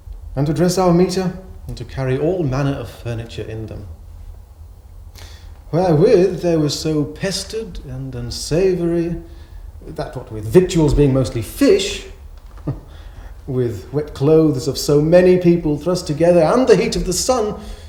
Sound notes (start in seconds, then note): 12.4 chuckles